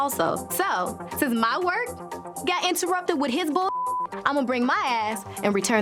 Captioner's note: beep